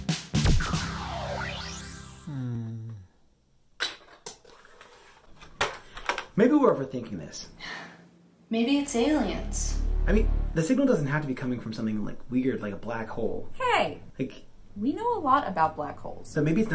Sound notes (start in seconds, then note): 0.6 laser zapping; 7.6 sigh; 8.9 dramatic music swell